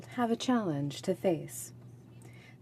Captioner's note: speaking French